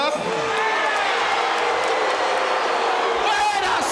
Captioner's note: audience shouting